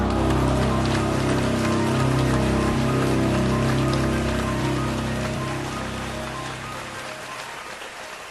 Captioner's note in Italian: applausi